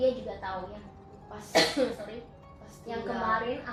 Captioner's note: cough